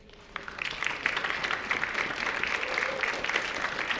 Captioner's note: audience applauding